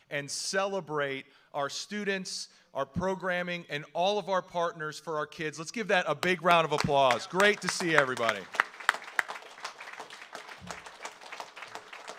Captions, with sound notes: and celebrate our students, our programming, and all of our partners for our kids. Let's give that a big round of applause. Great to see everybody. (audience applauds)